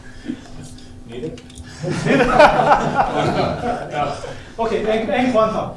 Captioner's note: laughter; laughter